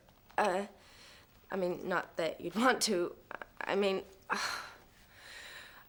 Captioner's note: sighs